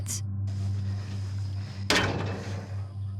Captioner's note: clanking sound